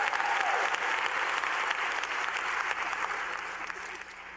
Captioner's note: cheers and applause